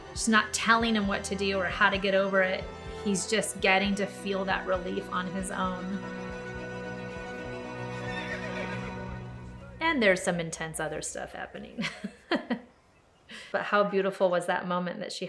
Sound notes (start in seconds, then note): 7.8 horse neighs